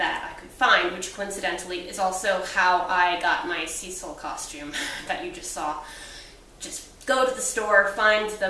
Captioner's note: laughs